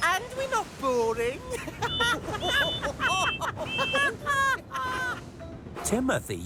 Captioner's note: both laughing